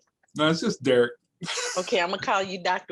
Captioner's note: laughing